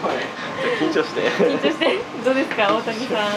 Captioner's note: laughs